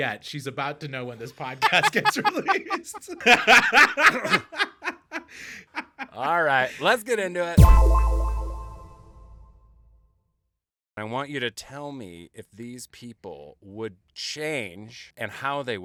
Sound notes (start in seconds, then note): 3.2 laughing; 7.6 tone echoing